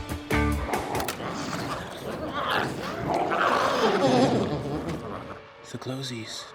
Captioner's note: glowzies growling